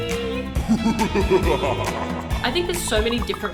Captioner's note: creepy Laughter